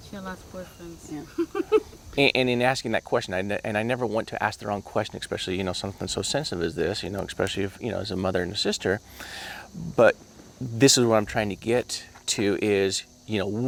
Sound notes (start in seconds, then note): 1.2 laughing